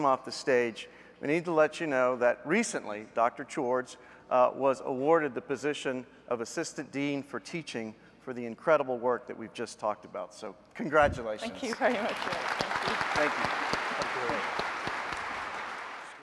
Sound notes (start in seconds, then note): 13.4 applause